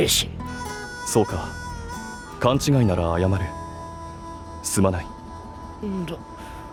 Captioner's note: sighing wistfully